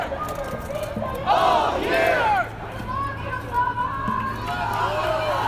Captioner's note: crowd Continues Chanting